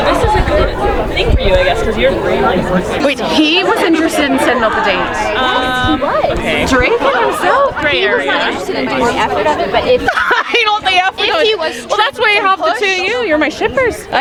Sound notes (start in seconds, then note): 8.3 people chattering; 9.9 laughing